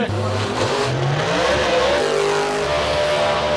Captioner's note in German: Motorenheulen